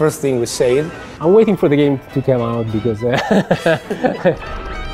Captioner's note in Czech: smích